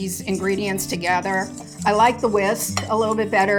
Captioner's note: whisk scraping